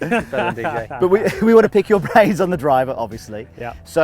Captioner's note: laughing